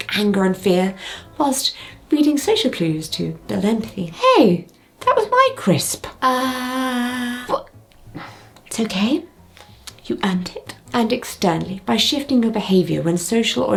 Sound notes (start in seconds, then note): 6.2 sighing